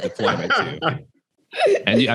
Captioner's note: all laughing